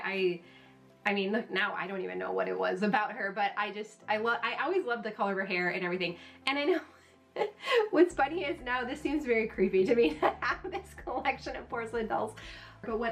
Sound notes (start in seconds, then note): 7.3 laughing